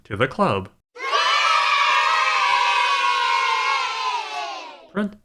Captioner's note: kids cheering